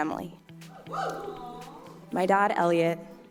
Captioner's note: audience cheers and aws